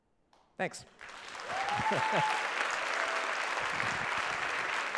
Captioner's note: applause